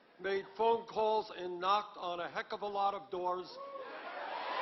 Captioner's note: applause